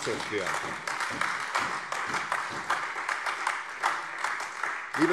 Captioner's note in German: Beifall SPD, AfD und Freie Demokraten